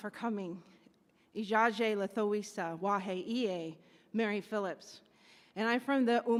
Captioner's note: speaks in Native language